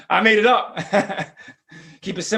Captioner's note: laughs